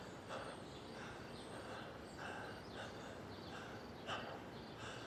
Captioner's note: Alex breathing heavily